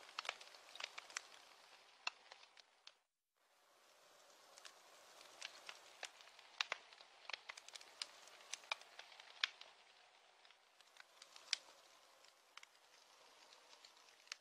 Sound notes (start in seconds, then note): 0.0 sounds of fire crackling; 8.8 rain falling; 11.4 crackling fire